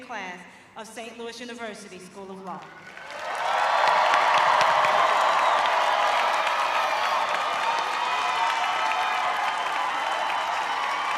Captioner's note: cheers and applause